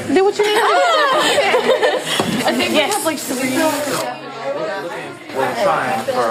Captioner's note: group laughing